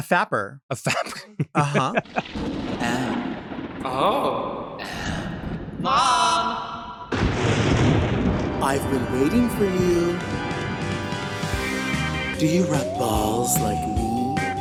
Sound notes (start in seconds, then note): 0.8 laughs; 7.0 thunder cracks; 11.1 spooky music